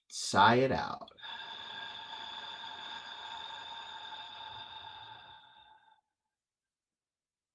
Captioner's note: exhale